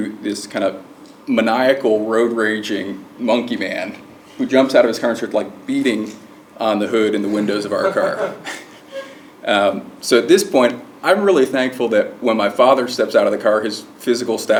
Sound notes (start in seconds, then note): 7.2 laugh